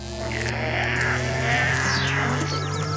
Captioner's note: scream; laugh